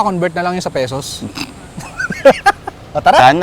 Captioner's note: both laugh